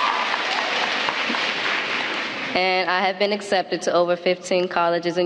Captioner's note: applause